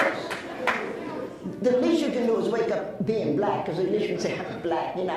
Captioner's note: laughs